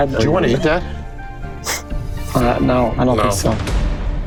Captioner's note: sniffs